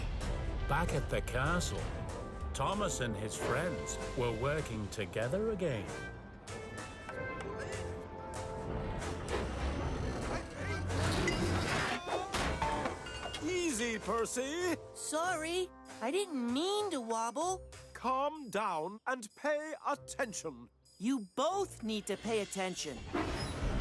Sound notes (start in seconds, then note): 10.9 clank